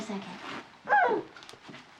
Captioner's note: squeals